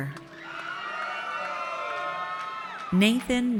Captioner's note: audience cheers